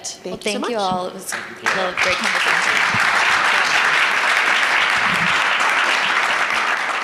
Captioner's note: audience applauding